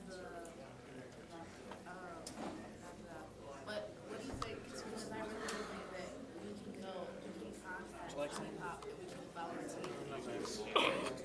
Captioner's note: general chatter